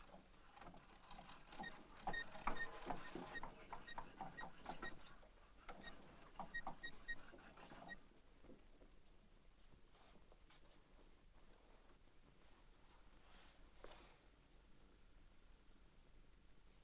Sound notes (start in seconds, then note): 0.5 wheel creaks